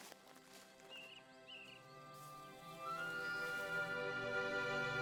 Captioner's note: birds chirping